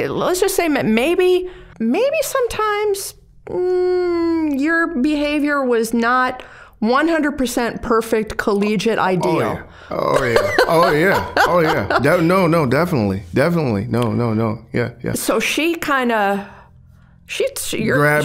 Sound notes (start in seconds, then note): 10.1 laughing